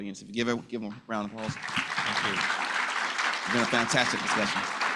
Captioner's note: applause